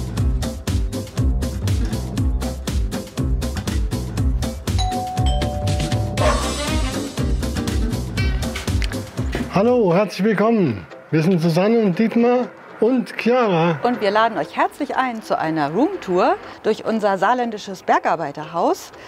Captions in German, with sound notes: (Aufgeweckte Musik) (Hundebellen) Hallo, herzlich willkommen, wir sind Susanne und Dietmar. Und Chiara. Und wir laden euch herzlich ein zu einer Room Tour durch unser saarländisches Bergarbeiterhaus,